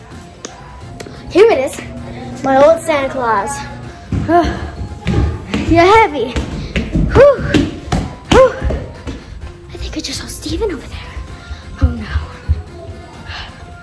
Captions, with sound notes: Here it is, my old Santa Claus. (sighing) You're heavy. Whoo. Whoo. I think I just saw Stephen over there. Oh no.